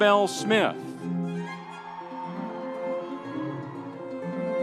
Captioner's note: audience cheering; light music continues